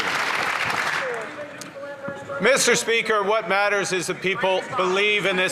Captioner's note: some Applause